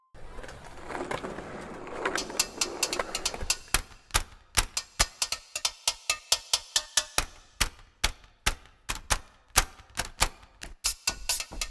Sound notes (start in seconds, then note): 3.2 metal Clicking; 7.0 tapping In Beat